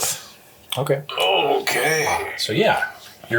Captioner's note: strained